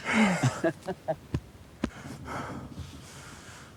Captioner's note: both laughing; hands patting; Lance breathing heavily